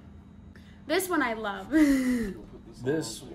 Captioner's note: laughs